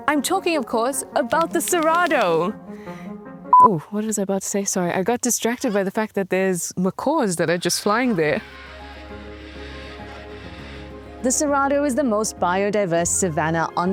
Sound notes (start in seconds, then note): 3.5 beep; 7.9 birds chittering; 8.3 pensive music